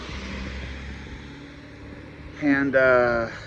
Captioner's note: none